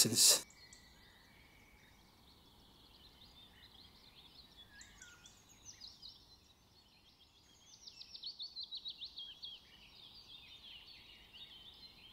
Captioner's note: bird sounds